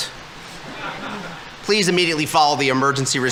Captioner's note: audience laughing